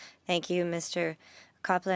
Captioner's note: speaking French